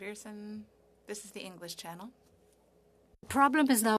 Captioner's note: speaking in French